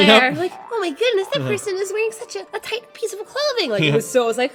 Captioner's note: kawaii voice